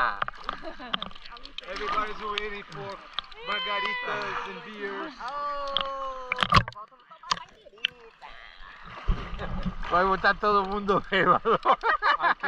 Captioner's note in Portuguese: risos